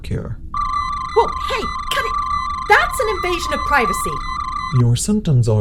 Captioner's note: medical scanner sound